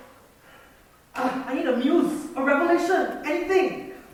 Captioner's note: moans